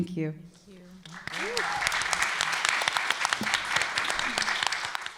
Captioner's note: applause